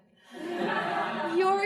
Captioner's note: crowd laughing